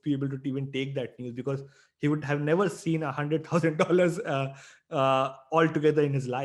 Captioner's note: chuckles